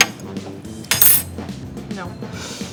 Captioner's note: fork taps; fork clangs